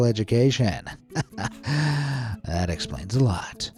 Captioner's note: chuckles